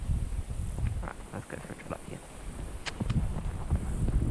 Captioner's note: clicks tongue